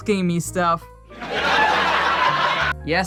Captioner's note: laugh track